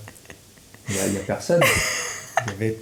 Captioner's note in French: Rires